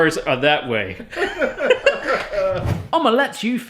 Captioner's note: laughing